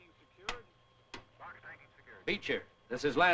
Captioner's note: chattering on radio